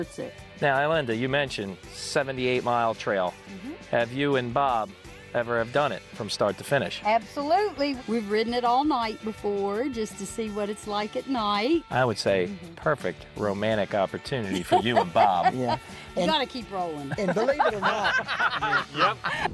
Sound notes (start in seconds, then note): 14.5 laughing; 17.0 group laughing; 19.3 upbeat music